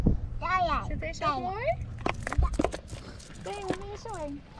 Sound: speaks Dutch

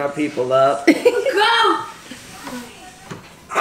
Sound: laughing

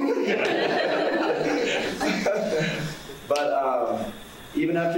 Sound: audience laughing

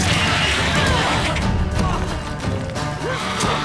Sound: shriek; groan; grunt

